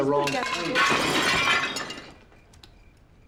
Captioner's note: dishes shatter